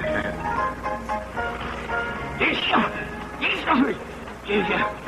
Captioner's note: sneezing